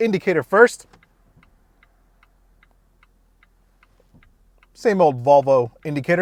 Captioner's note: turn indicator ticking repeatedly